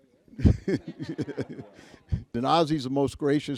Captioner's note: Al laughs